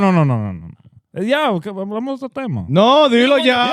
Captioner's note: speaking In Foreign Language